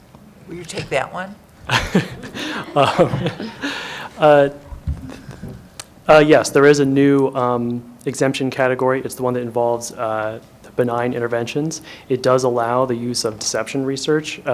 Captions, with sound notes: Will you take that one? (Laughter.) Uh, yes, there is a new, um, exemption category. It's the one that involves benign interventions. It does allow the use of deception research,